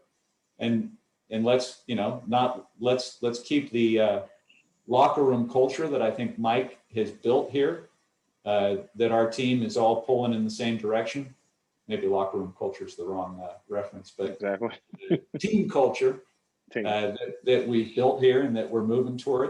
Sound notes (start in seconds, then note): 15.0 laughter